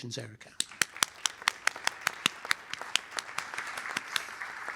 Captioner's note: applause